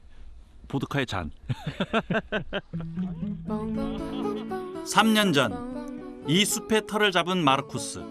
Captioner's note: laugh